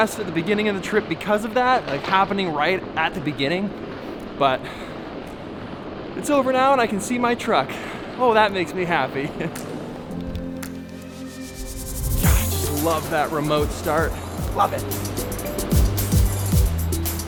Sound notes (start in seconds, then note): 9.6 laughs; 11.1 pop music